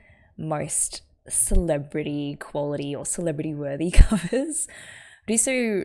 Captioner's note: laughs